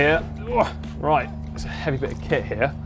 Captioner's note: groans